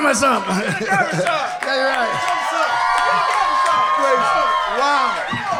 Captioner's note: audience cheering